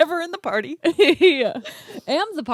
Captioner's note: laughs